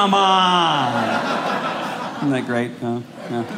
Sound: audience laughing

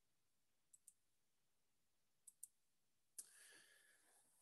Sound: mouse clicking

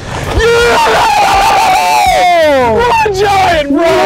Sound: both cheering

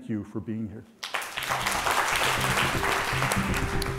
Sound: applause

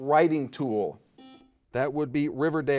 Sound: buzzer dings

